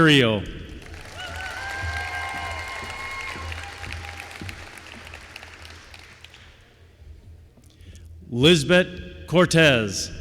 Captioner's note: applause